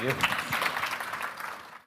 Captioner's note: applause